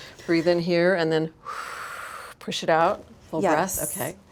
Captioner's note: exhales; inhales